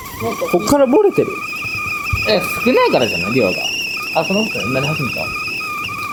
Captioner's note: laughs